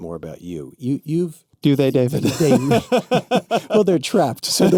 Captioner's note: laughs